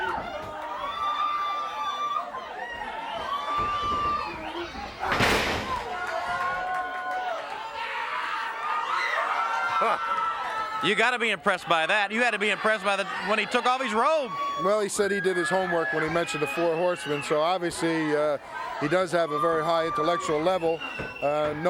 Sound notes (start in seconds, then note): 1.8 body thudding; 1.8 footsteps plodding; 10.0 laughs